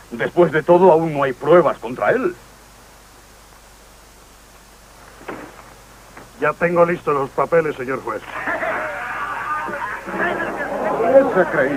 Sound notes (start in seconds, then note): 8.2 men cheering